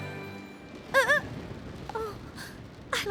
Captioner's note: gasps